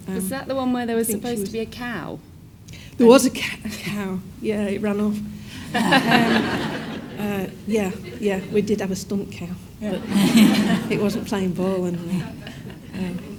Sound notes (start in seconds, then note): 5.6 all laugh; 9.8 audience laughs